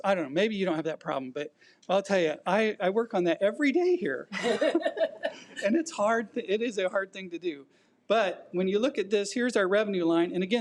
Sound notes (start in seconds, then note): 4.4 audience laughs